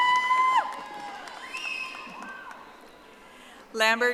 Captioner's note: audience applauding